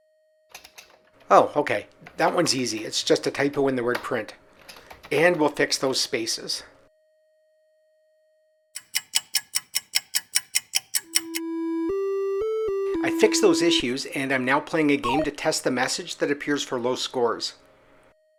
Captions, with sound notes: Oh, ok. That one’s easy - it’s just a typo in the word PRINT. And we'll fix those spaces. [sound of a ticking clock] I fixed those issues and am now playing a game to test the message that appears for low scores. .